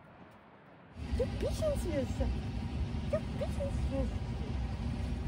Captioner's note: in Swiss German